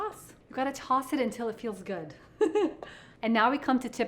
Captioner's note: chuckles